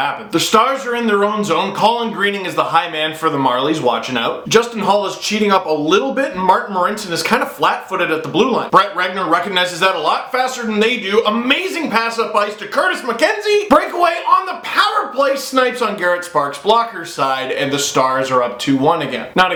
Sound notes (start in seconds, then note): none